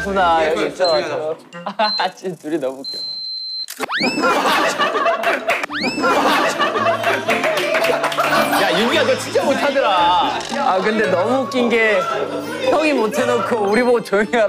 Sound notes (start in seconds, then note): 10.3 laughing